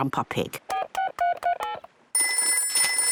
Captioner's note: dial tones beeping; ringing